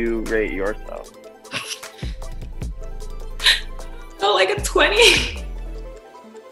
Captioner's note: laughs